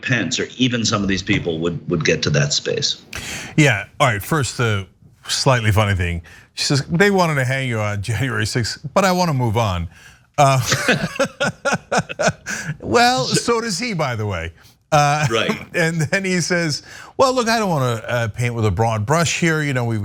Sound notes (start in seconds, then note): 10.4 laugh